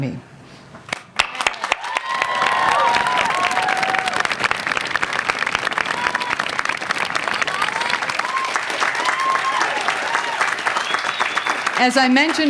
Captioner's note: applause